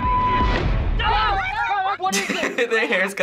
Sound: people yelling

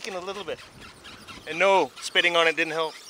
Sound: machinery squeaks

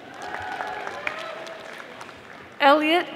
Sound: audience applauding

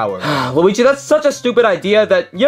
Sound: sighs

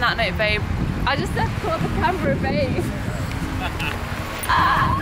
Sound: laughing

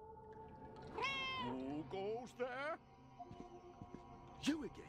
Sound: Hodge meows

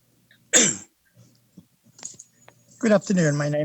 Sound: clearing throat

